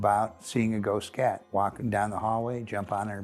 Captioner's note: cat purring